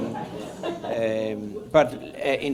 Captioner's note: laughter